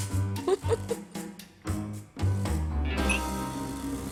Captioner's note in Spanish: Risa de ella